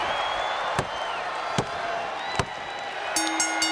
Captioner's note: palm tapping; bell rings